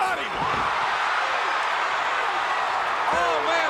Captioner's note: crowd cheering